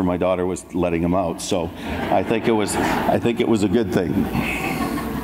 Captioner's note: audience laughs